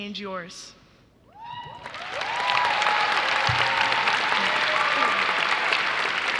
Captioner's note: audience cheering and clapping